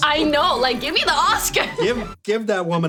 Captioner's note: laughs